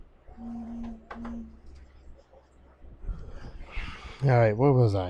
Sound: phone buzzing

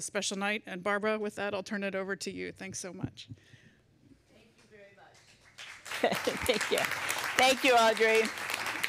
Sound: applause

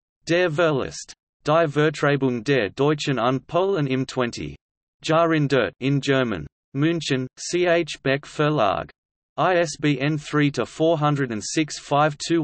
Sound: in German

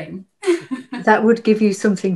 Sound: laughs

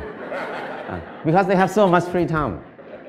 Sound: Smijeh

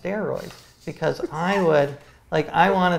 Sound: laughs

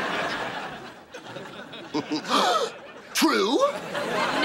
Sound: chuckles, gasping

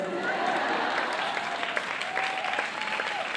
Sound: applause

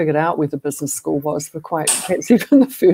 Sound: laughter

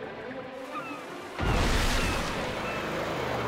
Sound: blasting

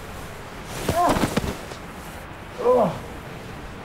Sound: Tim thudding; groaning

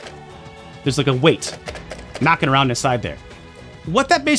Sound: weight clicking inside controller

